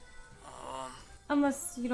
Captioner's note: Troy groans